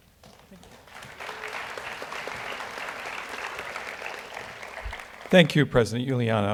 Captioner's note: audience applauds